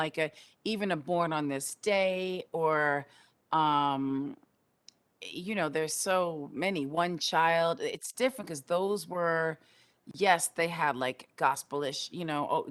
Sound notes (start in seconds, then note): none